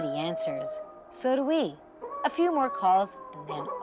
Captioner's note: coyote howling